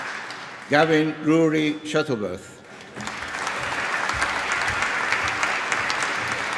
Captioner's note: applause